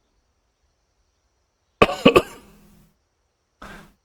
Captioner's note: cough